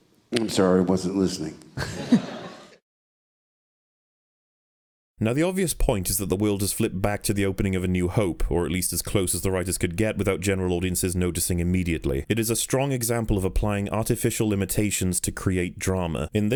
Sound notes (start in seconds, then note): 1.8 audience laughing